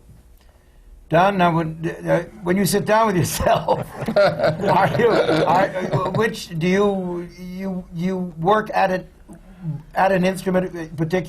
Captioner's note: laughter